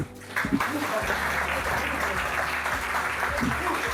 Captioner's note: applause